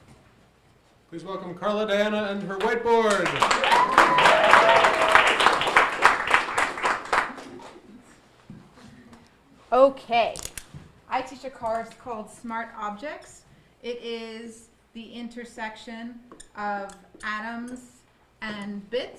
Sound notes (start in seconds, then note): 3.0 audience cheering and applauding